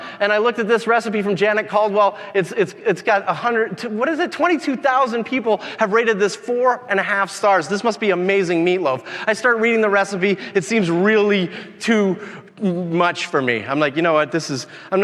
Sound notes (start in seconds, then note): none